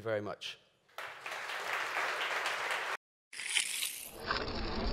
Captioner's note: applause